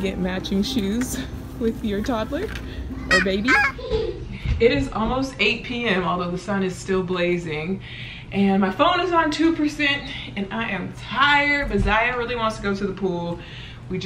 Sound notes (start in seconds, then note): 3.0 exclaims